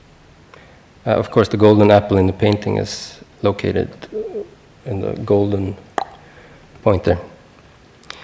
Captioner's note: tongue click